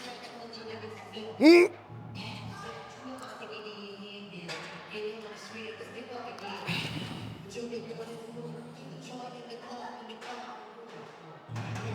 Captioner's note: grunts